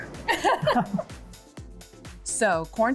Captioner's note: both chuckling